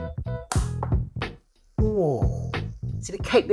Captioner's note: cover snaps